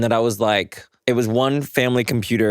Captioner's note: none